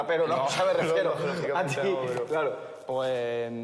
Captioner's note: laughs